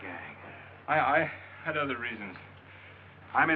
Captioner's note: stammering